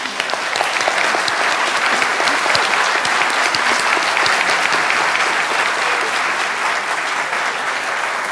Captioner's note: applause